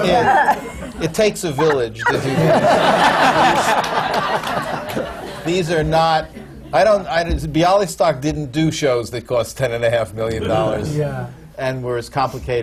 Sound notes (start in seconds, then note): 1.6 laughter